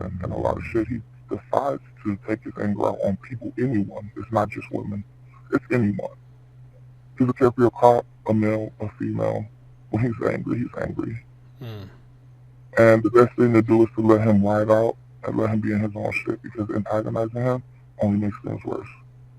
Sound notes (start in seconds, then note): 7.4 murmurs